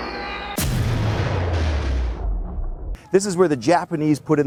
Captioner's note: bombs exploding